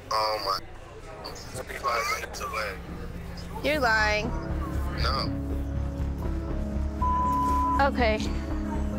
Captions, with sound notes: - Oh my, I'm 45 minute away. - You're lying. - No. (gentle suspenseful music) - (beep) Okay.